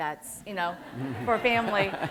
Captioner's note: laughter